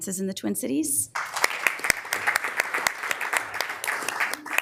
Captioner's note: members applauding